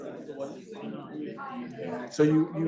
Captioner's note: students chattering